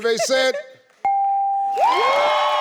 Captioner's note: computer beeps; audience applauding